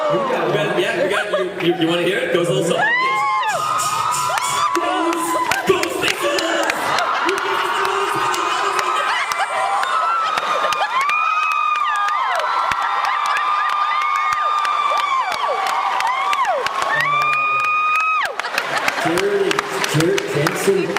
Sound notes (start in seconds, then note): 10.9 laughs, cheers